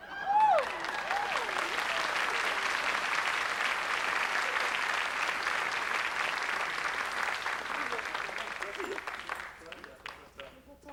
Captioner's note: applause